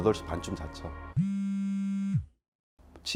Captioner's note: mobile Phone Vibration